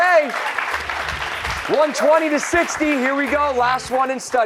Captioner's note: applause